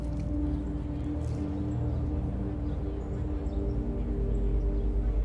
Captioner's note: low communal chatter